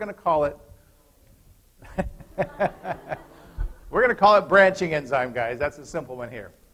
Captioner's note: laughter